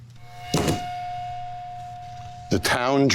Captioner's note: iPad thudding